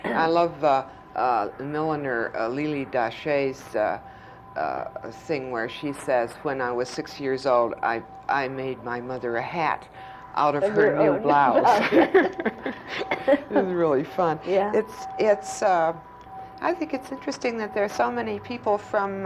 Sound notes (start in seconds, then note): 11.6 laughter